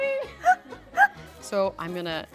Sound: laughter

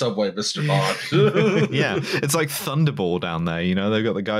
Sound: laughter

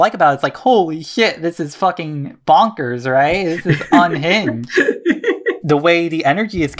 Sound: laughing

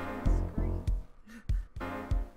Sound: laughs

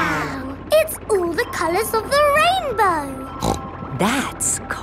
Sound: snorts

